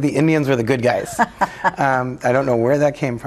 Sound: laughing

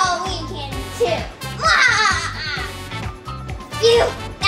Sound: assistant laughs

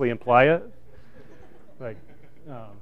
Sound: laughter

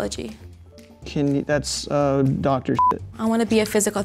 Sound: beep

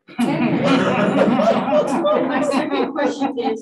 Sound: panelists laughing

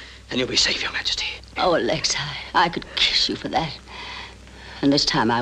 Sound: sigh

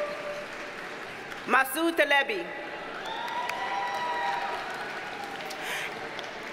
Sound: audience cheers and applauds; audience cheers and applauds

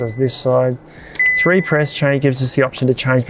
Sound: fridge beeps

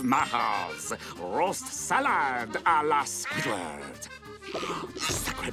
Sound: gasping

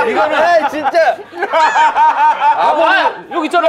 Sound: laughing

